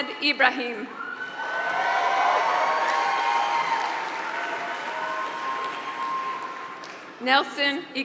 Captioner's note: applause